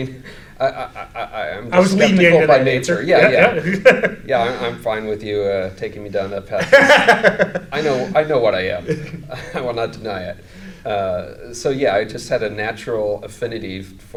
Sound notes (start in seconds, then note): 2.9 laughs; 6.6 laughs